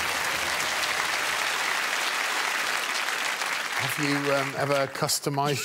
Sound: audience applause

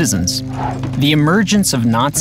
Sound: air whooshing

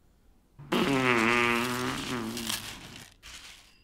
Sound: fart sound effect

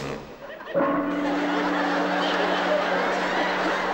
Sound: gong

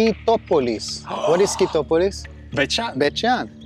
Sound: gasps

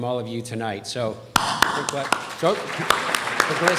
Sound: applauds

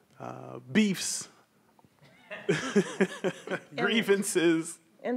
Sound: laughs

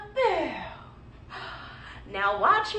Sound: gasping

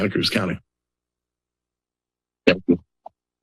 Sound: silence

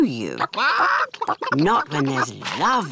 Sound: chickens chatter

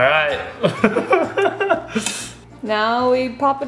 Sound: laughs

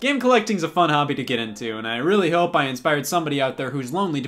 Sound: none

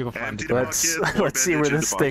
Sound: laughs

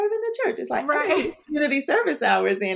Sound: laughs

